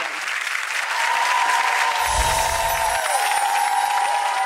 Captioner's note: audience cheering